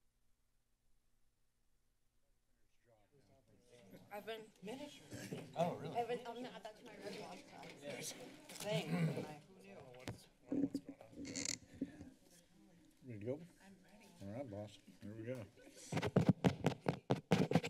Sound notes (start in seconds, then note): 0.7 silence; 3.9 chatting; 16.0 mic tapping